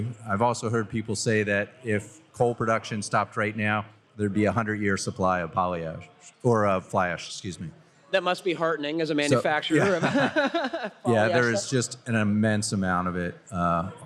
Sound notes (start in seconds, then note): 9.6 laughter